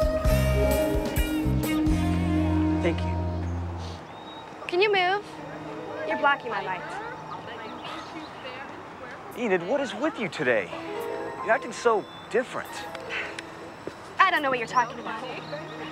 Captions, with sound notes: Thank you. Can you move? You're blocking my light. [scoffs] Enid, what is with you today? You're acting so different. I don't know what you're talking about.